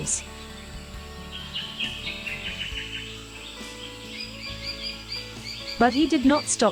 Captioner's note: birds sounds and chirps